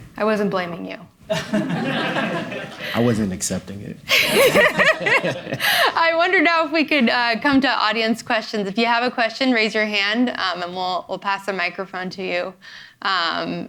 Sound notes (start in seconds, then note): 1.3 audience laughing; 4.1 laughing